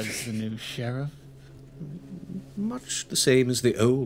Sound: snorting

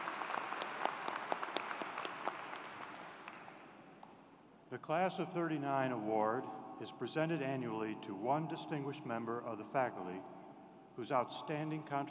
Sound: applause

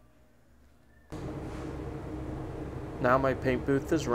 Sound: machines whirring

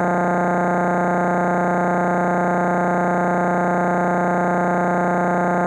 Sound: electronic buzzing continues

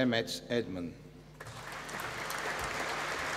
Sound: applause

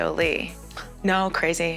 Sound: gasp

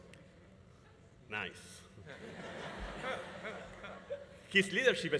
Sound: audience laughing

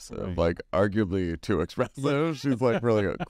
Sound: laughs

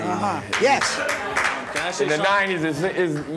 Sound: audience clapping

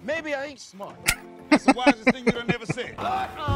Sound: laughing

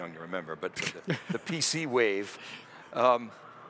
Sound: laugh

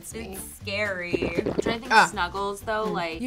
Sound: chugging liquid

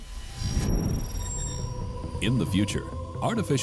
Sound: drones chirping

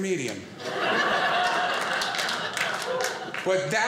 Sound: audience laughing

